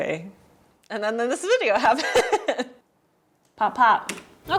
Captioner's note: laughs